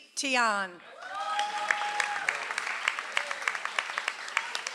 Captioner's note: audience applauds